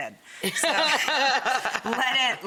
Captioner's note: Rachael chuckles